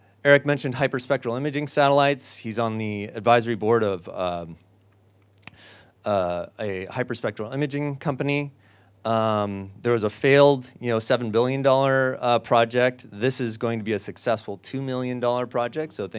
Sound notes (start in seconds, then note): none